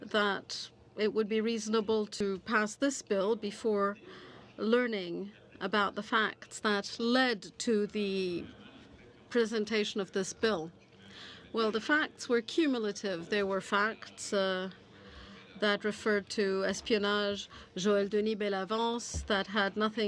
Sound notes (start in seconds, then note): 16.7 speaking French